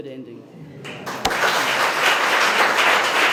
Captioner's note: applause